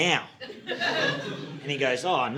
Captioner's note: audience laughing